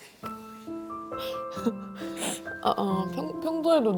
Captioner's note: shedding more tears